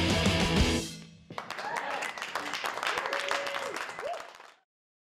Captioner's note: applause